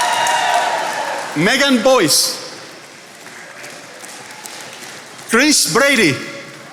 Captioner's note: attendees applauding; attendees applauding